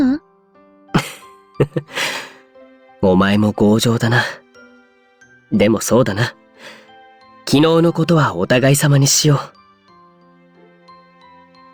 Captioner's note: laugh